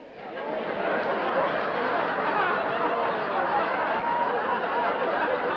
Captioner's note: laughter